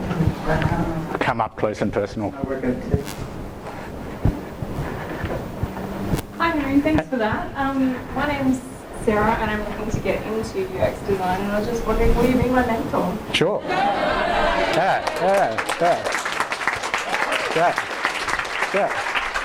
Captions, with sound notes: Come up close and personal. - [Voiceover] That might work out too. - [Voiceover] Hi, thanks for that. My name is Sarah and I want to get into UX design, and I was just wondering, will you be my mentor? (clapping and cheering) - Sure, yeah, yeah, yeah, yeah Yeah, yeah, good stuff.